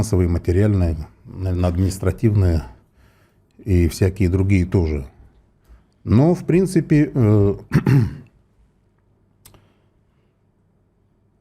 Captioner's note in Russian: откашливается